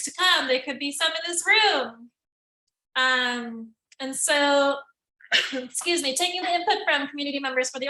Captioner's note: coughs